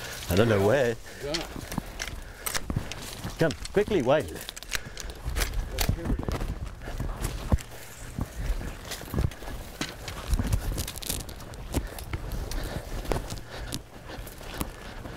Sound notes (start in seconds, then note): 3.4 gun reloading; 8.0 footsteps through the brush; 12.2 heavy breathing